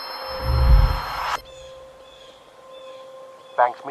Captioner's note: wind whooshing